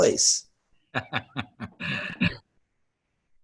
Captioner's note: laughter